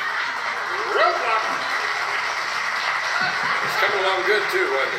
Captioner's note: audience applauding